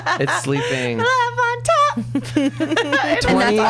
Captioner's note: laughs